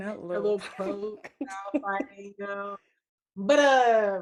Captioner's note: laughs